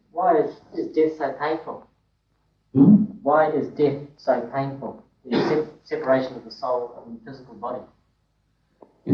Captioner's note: laughter